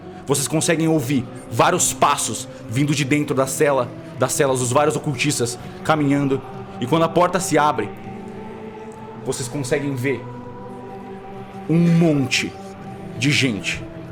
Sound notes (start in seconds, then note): none